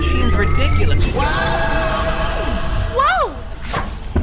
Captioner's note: test tube and lightbulb yell; portal hums